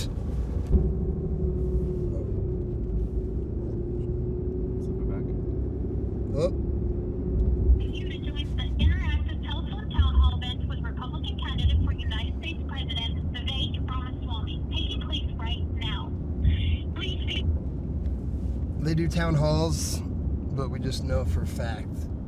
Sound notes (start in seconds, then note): 0.0 engine sound; 8.2 telephone voice